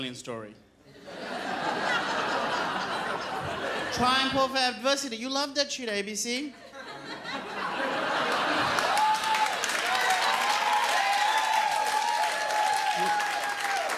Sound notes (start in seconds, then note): 0.9 crowd laughs; 7.2 crowd cheers